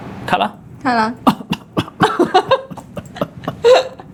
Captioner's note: cough